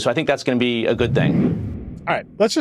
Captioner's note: transition whooshes